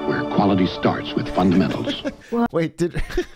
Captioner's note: laughs